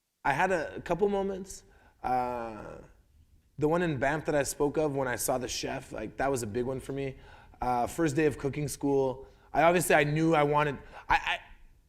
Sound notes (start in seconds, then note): none